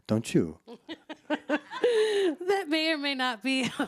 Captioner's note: laughs